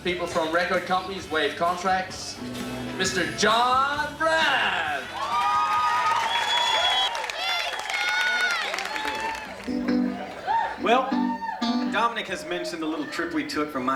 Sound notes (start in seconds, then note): 5.3 crowd cheers